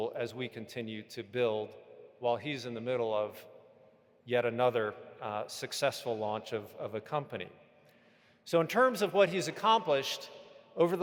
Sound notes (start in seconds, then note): none